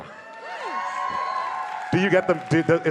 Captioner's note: audience cheers